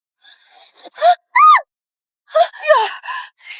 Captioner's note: aaaah!